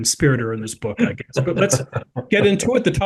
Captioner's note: laugh